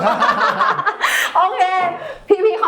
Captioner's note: laughs